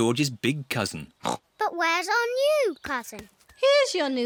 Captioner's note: oinks